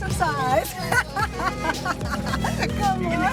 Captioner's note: laughs